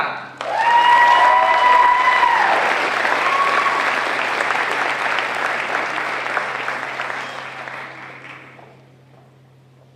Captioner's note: applause